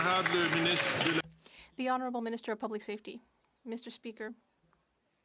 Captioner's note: some Applause